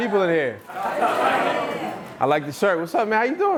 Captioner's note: laughing